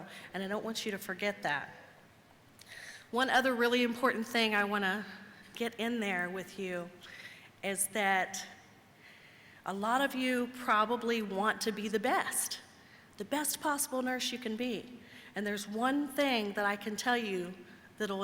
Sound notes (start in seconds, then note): none